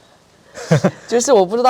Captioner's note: laughs